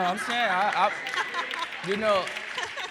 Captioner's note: applause; laughter